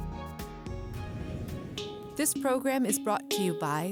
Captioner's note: whooshing